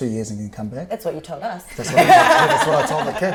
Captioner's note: laughter